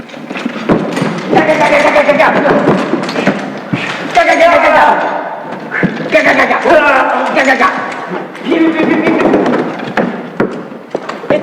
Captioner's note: vocalising gun sounds